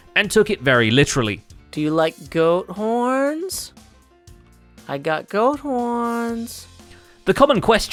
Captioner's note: sweetly